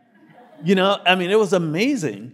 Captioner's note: audience laughing